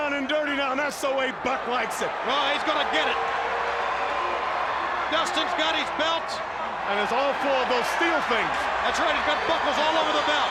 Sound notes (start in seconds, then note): 5.0 crowd chatter